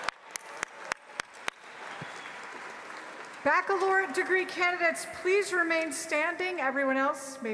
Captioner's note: applause